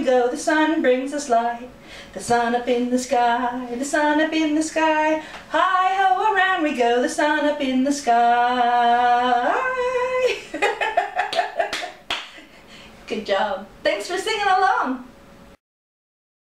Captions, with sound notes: The sun bright us light! The sun up in the sky! The sun up in the sky! Heigh Ho around we go, The sun up in the sky! (Laughter) (Clapping) Good job. Thanks for singing along.